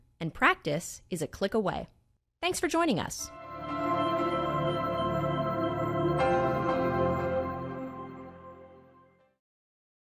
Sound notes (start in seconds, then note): 3.3 logo chiming; 3.3 bright gentle music